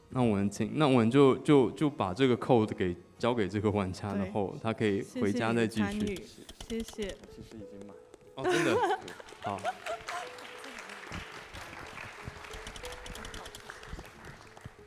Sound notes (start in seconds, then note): 8.4 laughs; 8.9 applause